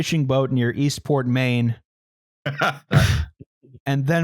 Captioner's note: laughs